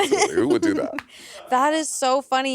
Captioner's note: laughing